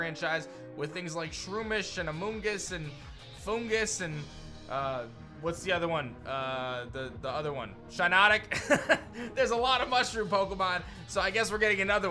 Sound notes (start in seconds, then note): 8.5 chuckles